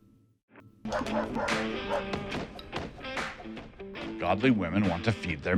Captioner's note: dogs barking; rock music